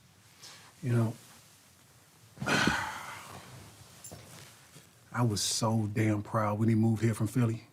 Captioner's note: exhales deeply